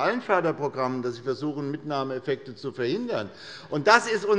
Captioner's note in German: none